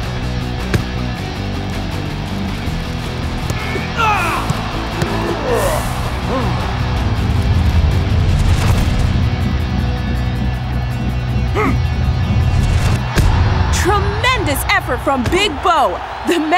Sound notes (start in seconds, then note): 4.9 grunts; 11.5 grunts